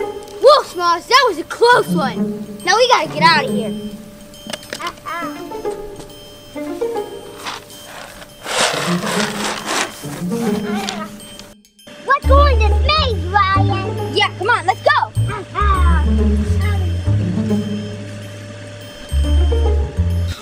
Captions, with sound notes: - Whoo Smalls, that was a close one. Now, we gotta get outta here. (treasure clanking) - We'll go in this maze, Ryan. - Yeah, c'mon let's go.